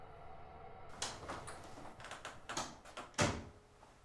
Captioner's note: door clicks